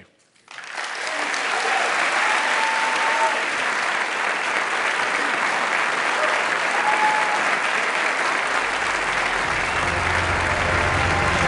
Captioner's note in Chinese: 掌聲